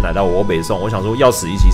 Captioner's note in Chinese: 台語